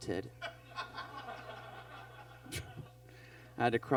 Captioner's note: audience laughs